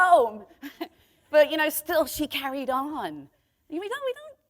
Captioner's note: chuckle